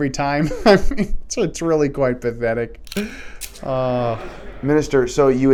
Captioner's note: sighs